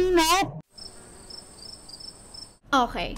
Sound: cricket sound

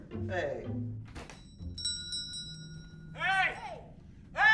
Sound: bell ringing

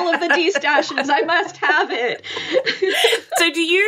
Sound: laughing

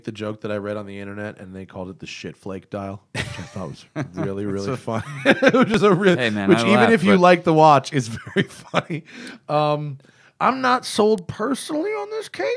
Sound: laughs

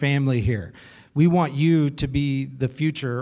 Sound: none

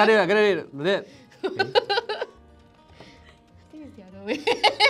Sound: laughs

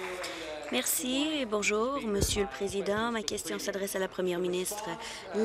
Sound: applause

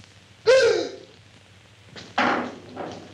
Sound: loud gasp

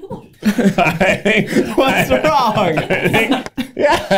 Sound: Keith laughs

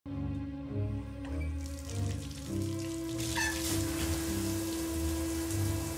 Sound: suspenseful music; water running

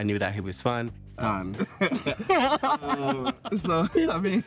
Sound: laughing

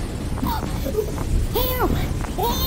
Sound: crashing Waves; coughing

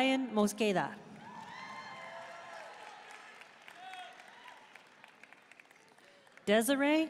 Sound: audience cheering and applauding

